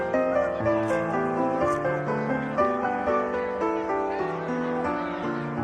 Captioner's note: crowd shouting; gentle piano music; cameras clicking; crowd shouting; gentle piano music